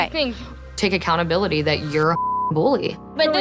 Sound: beep

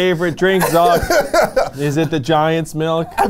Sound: laughs

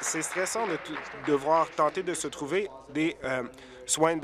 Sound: applause

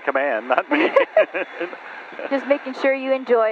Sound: both laughing

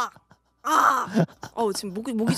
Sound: crow

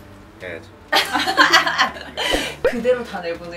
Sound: hahahahahah

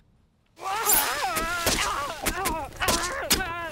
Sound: groaning; slashing and thudding

